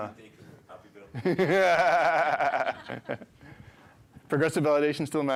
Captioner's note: laughter